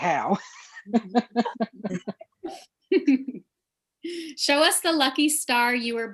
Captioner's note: laughter